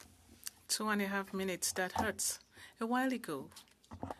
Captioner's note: speaking French